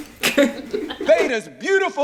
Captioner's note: laugh